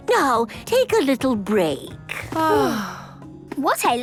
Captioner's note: both sighing